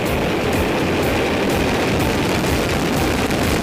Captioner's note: rocket roars